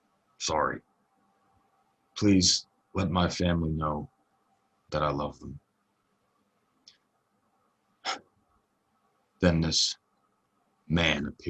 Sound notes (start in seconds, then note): none